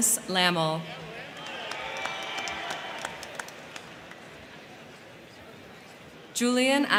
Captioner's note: crowd cheering; crowd clapping